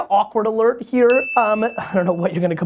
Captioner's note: bell sound